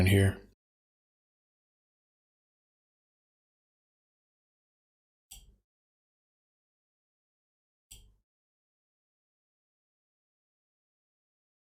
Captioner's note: blank Audio